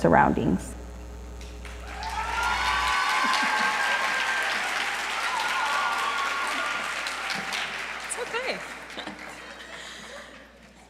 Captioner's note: applause